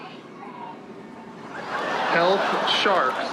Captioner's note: audience laughs